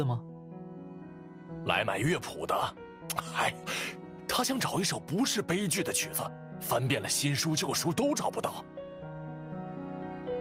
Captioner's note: sigh